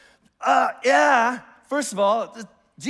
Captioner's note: exclaims in disgust